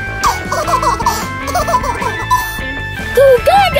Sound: baby laughing

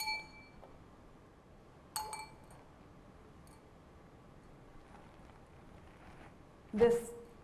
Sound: glass clinking

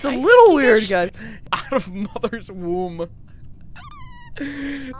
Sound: laughing; laughter

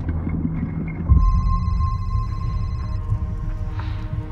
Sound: phone rings

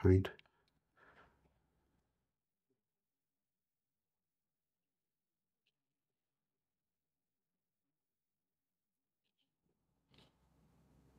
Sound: silence

